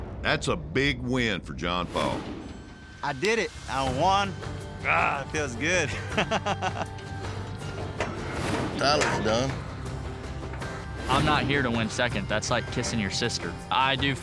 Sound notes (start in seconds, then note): 5.9 laughs